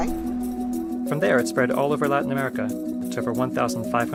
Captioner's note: voiceover